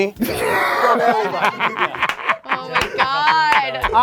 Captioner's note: laughing